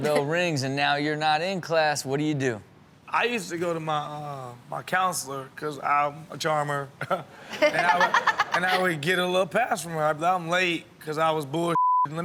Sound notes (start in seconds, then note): 7.0 chuckles; 7.4 Chanel and audience laughing